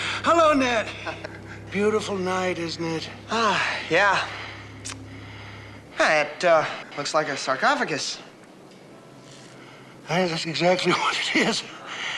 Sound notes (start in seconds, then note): 0.0 laughing; 3.2 sighing